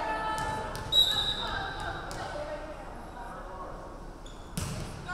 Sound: referee whistling

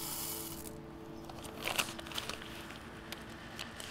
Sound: seeds rattle

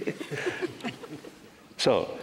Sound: laughter

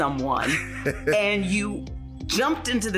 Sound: chuckling

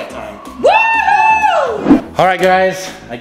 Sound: cheering

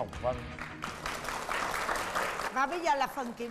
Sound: applause

